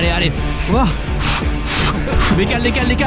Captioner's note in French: souffle comme un boeuf